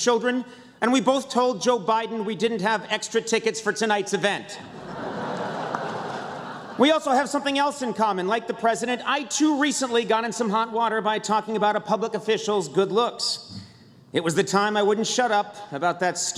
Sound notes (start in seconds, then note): 4.6 laughter